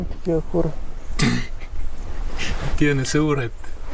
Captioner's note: laughing